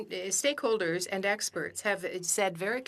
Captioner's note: speaking French